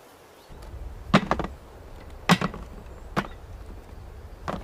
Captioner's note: blocks clattering